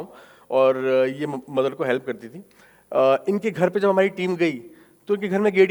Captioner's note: speaking in foreign language